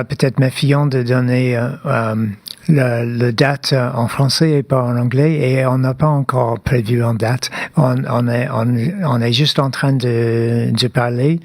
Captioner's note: speaking French